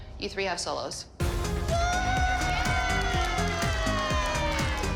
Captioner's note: cheering, applause